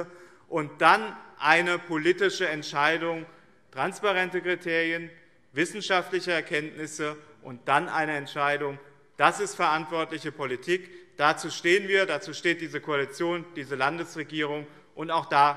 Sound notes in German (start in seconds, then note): none